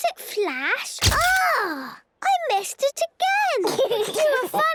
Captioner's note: camera clicks; giggling